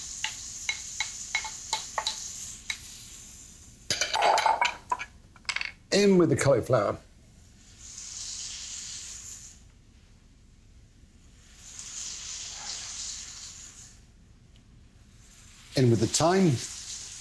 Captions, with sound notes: (bowls clanging) In with the cauliflower. In with the thyme.